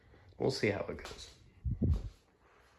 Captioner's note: wind Noises